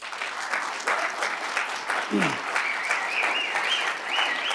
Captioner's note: cheers and applause